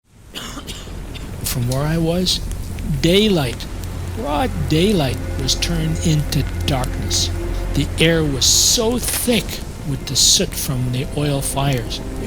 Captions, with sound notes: [Coughing] From where I was daylight, broad daylight was turned into darkness. The air was so thick with the soot from the oil fires.